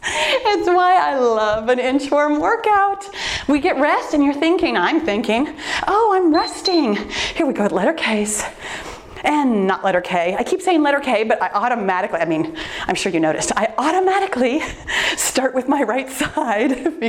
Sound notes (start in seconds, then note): 6.2 timer beeps